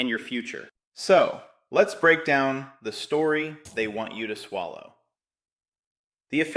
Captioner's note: sarcastic